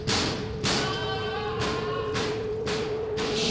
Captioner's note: banging; shouting